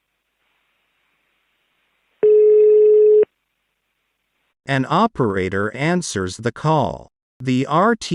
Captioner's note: phone ring